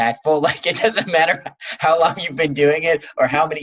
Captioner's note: laughs